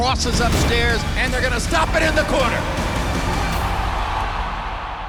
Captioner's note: crowd cheering